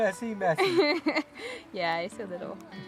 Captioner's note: laughing